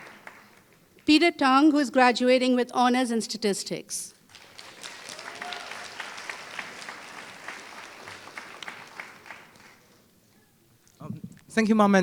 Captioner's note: applause